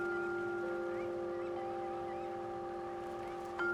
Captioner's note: seagulls squawk